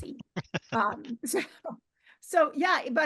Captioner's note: laughing